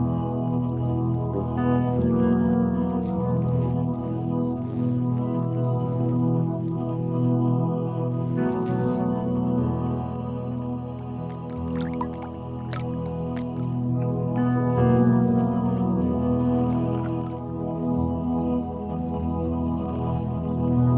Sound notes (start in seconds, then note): 11.1 dripping water